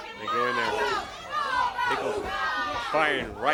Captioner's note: crowd chants